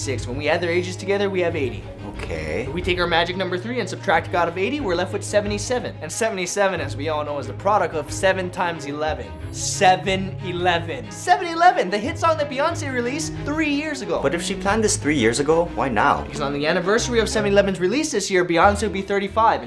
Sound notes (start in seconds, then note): none